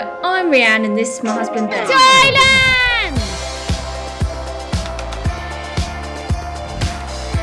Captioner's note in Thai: ปรบมือ